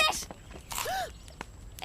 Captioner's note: chomps on Fish